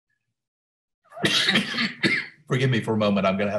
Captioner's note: coughs